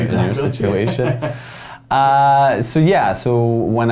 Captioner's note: laughs